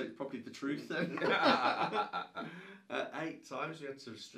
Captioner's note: both laughing